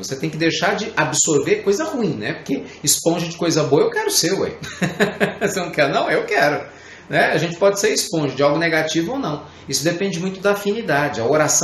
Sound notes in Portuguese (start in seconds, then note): 4.6 Risos